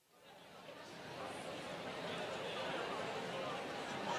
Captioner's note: group chatter